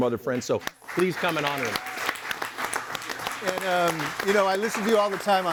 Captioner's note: audience applauds and cheers